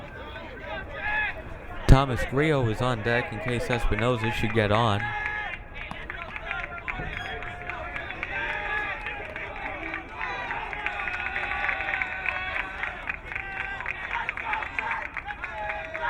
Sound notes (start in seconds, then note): 5.6 crowd cheering